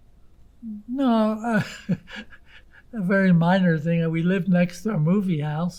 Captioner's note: laughing